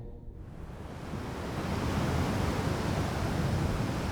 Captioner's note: waves whooshing